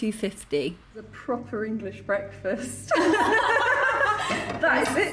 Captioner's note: laughing